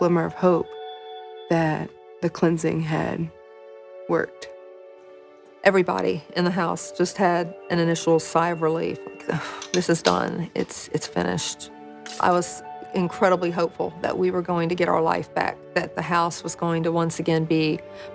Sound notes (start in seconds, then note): 9.4 sighs